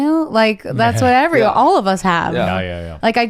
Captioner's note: chuckles